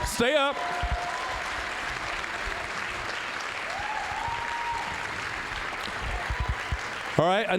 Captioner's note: applause, cheering